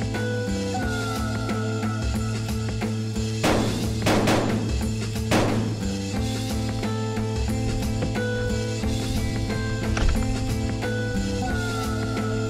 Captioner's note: gunshots